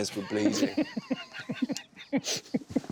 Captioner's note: laughter